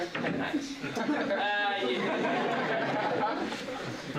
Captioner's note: laughter